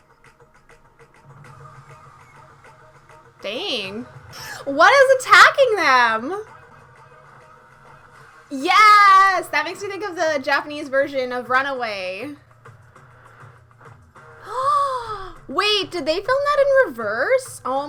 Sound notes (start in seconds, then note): 12.4 gasp